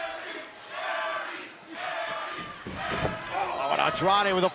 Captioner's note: fans chanting